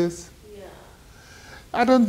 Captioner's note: woman's Voice